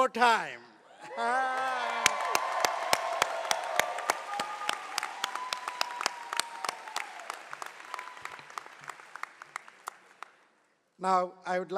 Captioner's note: cheering and applause